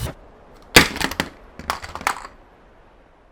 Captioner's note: sound of controller slamming